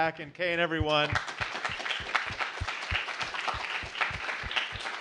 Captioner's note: applause